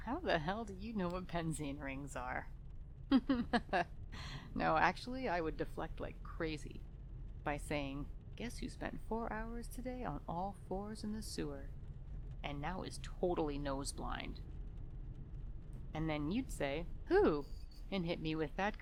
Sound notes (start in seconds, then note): 3.2 forced laughter